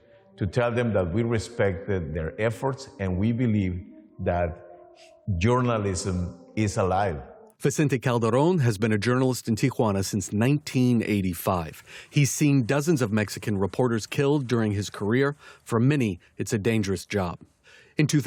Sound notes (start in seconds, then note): 8.3 voice-over